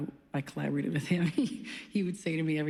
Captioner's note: chuckles